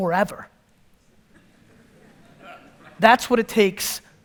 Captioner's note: audience laughter